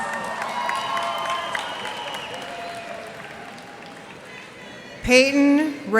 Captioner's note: cheers and applause